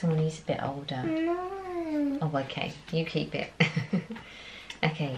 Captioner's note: laughs